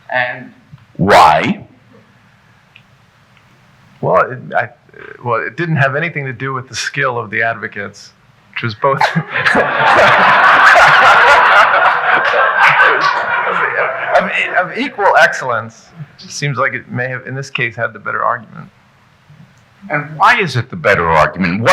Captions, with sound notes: - And why? - Well, it didn't have anything to do with the skill of the advocates, which was both (laughs) (audience laughing) of equal excellence. Seems like it may have, in this case, had the better argument. - Why is it the better argument?